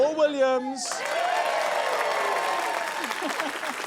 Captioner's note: cheering, applause